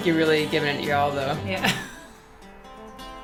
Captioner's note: laughs